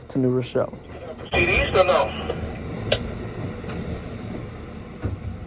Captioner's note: radio chatter